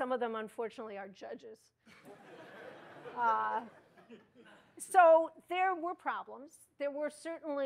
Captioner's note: laughter